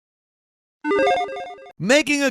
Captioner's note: digital chiming